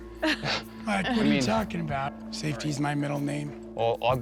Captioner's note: chuckles